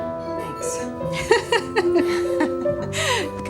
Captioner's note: laughing